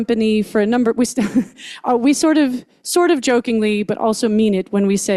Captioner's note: chuckles